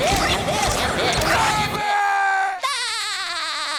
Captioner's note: screaming; laughing